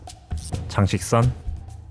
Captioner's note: mosquito